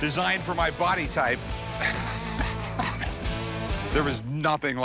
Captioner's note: laughs